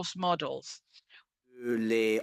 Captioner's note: speaking French